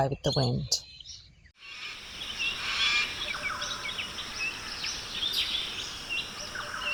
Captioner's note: australian rainforest sounds